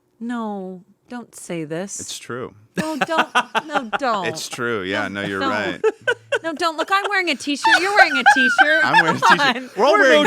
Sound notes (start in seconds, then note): 3.7 laughs